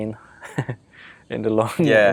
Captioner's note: laughing